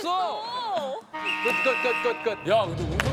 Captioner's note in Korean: 호루라기 소리